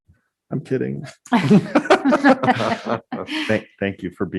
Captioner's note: group laughing